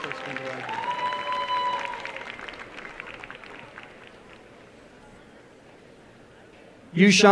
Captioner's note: applause and cheering